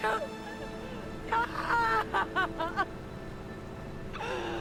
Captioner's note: screaming